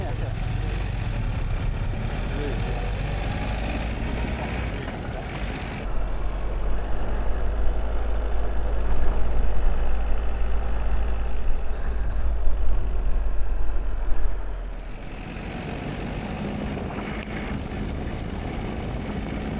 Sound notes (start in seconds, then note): 3.2 sound of engines, faint voices